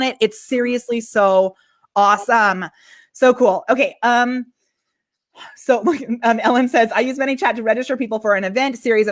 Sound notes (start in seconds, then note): 5.2 laughs